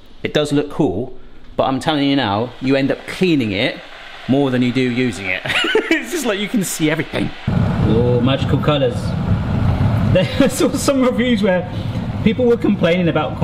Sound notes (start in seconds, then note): 5.4 laughs; 7.8 water burbling